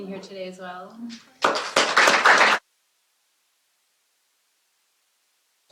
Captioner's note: applause